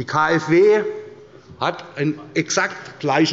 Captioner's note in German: none